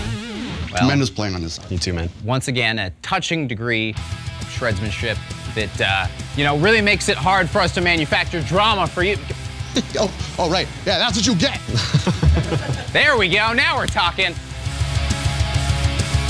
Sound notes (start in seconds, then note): 11.3 all laugh